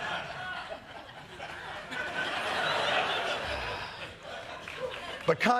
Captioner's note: laughter